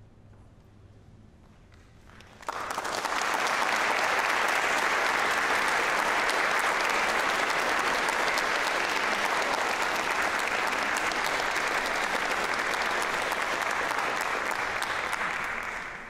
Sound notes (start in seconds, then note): 2.0 applause